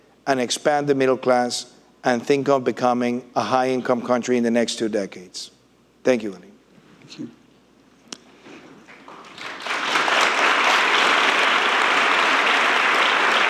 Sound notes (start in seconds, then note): 8.8 audience applauding